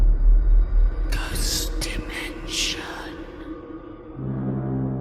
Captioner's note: ghostly Voice